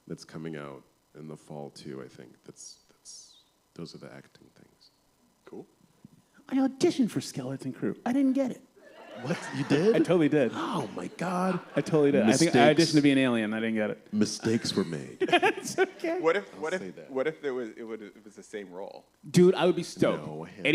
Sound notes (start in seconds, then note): 8.8 laughter; 14.4 laughs